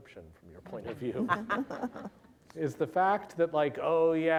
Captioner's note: laughter